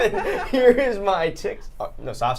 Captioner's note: laughter